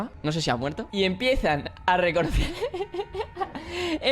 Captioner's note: laughs